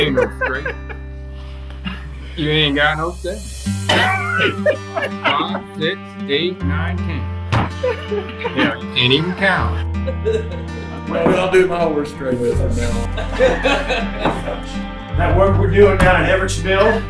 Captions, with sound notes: (men laughs) - That ain't no straight. You ain't got no seven. Five, six, eight, nine, 10. You didn't even count 'em. (group laughs) - Well, that'll be my worst straight with him from now on. - That work with you and Everett's Mill?